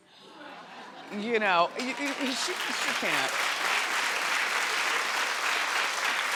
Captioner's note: crowd claps